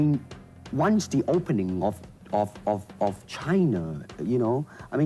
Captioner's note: stammering